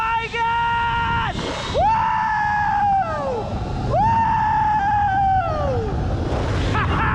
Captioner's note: shouts; echoes